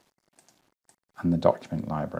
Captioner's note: mouse clicking